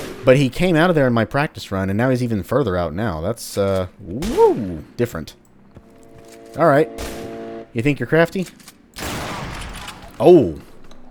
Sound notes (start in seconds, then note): 9.6 bam